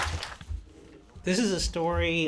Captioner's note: applause